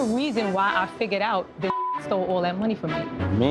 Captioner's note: beep